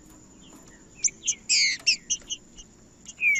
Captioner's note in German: trinca ferro cantando